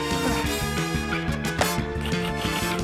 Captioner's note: grunts